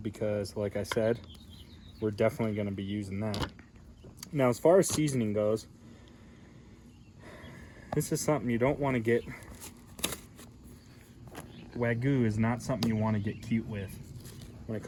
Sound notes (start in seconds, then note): 7.1 exhales